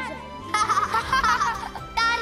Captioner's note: laughing